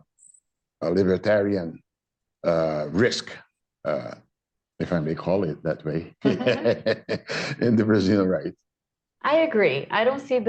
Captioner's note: laughter